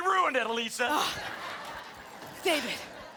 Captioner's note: laughter; scoffs